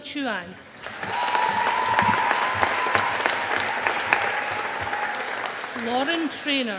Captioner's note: audience applauding